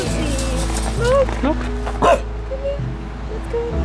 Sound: bark

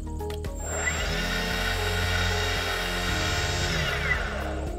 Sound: motor buzzes

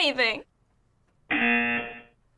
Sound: buzzer

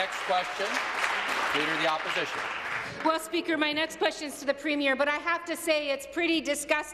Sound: applause

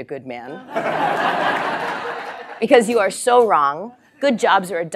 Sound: laugh

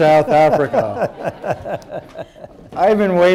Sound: laughter

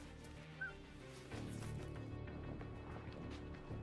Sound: whistling

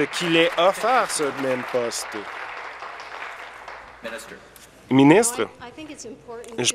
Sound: applause

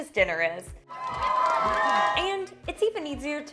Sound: cheering

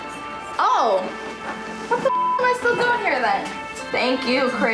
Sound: beep

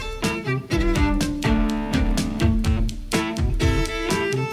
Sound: typewriter clacking

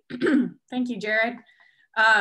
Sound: coughs

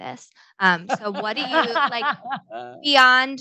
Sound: panel laughs

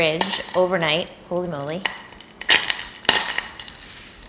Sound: pot sizzling

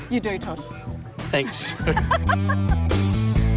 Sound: laughs

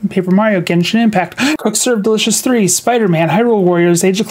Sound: deep breath

